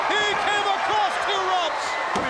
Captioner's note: crowd cheering